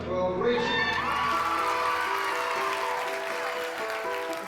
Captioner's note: audience applauding and whooping